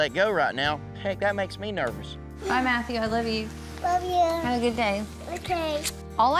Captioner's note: none